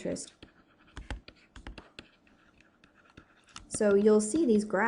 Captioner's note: pencil scratching